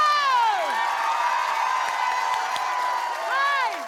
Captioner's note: cheers